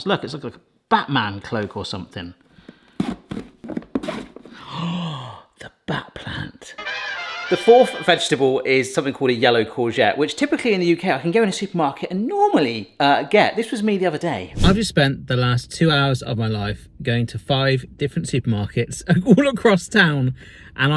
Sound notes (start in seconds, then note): 4.4 gasps; 6.8 dramatic music